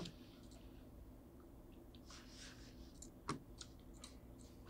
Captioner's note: mouse clicking